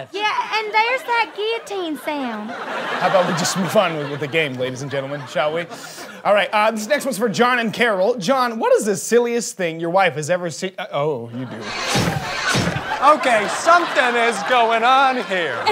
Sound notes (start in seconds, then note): 11.6 guillotine chops twice